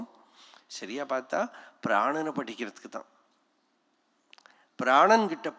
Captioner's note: breath